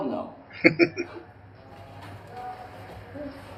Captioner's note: chuckling